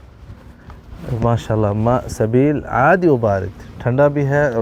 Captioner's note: Arabic